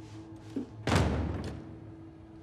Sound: thump

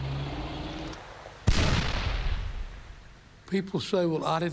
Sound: cannon shot exploding

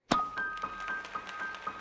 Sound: thwack

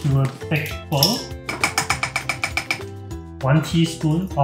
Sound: spoon tapping

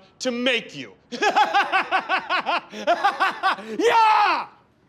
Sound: laughs

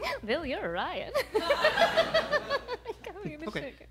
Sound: giggles; laughs

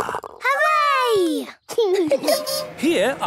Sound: laughing

